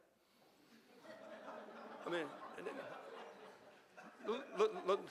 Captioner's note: audience laughing